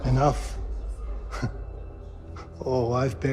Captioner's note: unsettling chuckle